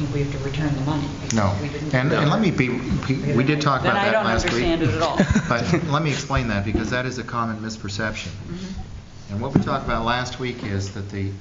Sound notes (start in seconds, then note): 5.0 laughter